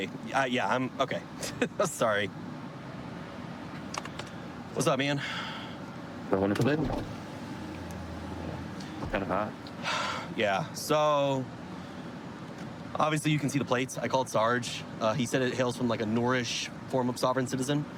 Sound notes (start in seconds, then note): 9.8 sighs